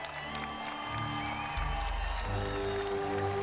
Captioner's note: audience members applauding